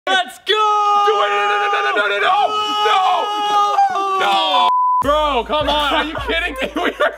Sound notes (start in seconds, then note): 0.6 screaming